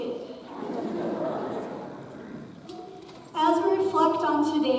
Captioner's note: audience chuckles